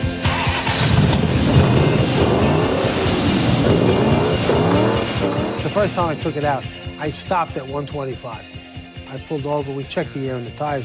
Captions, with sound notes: (engine starts) (engine revs) - The first time I took it out I stopped at 125. I pulled over we checked the air in the tires, Hugo wanted